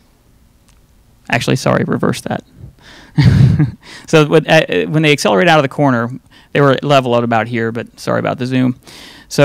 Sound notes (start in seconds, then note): 3.2 laughing